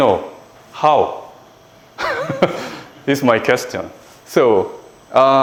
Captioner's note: laughs